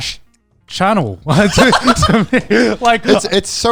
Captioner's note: laughing